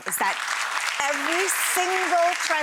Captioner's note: audience clapping